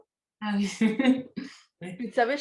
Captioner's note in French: rires